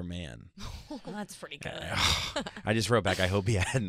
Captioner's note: laughing